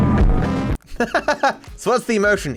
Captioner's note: laughs